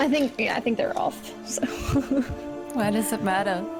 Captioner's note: relieved laugh